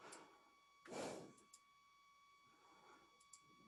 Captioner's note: exhaling